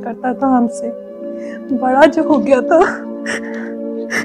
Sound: sobs

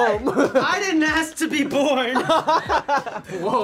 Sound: laughs

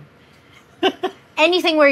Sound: giggles

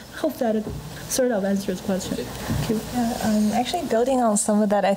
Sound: none

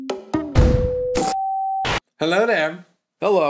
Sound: tone / static

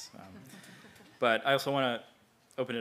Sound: laugh

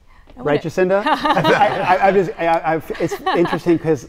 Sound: group laughing

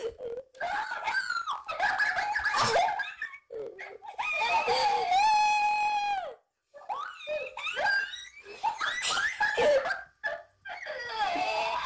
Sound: laughter

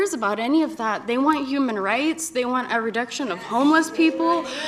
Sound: cheers

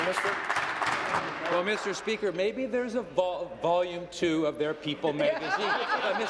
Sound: applause

